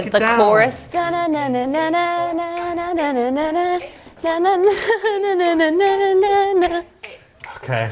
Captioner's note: hums a tune